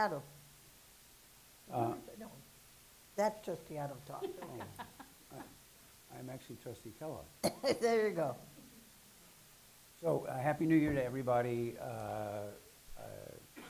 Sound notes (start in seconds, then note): 4.2 laughing; 8.6 chuckling